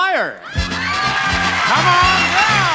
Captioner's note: audience applauding; upbeat music